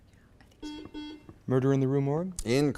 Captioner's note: buzzer beeps